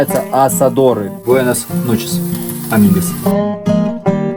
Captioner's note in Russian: на испанском